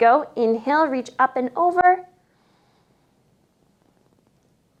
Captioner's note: inhales